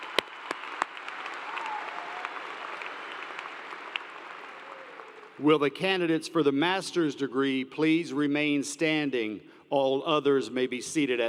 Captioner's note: cheers and Applause